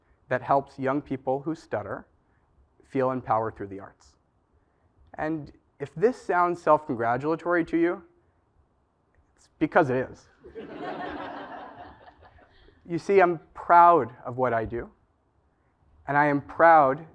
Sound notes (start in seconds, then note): 10.5 laugh